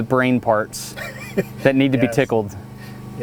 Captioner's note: laughs